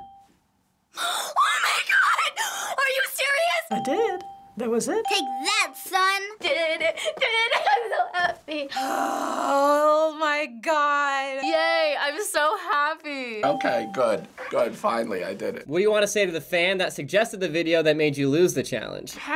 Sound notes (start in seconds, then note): 1.0 gasps, speaks shrilly; 3.7 ding; 8.7 ding; 8.7 prolonged sigh; 13.4 ding